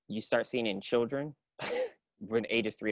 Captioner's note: chuckles